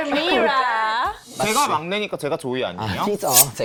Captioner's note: sharp SFX